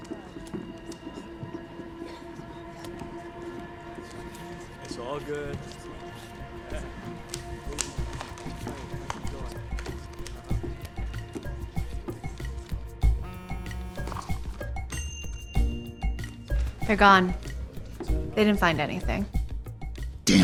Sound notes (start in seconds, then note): 4.8 tense music; 13.2 phone buzzing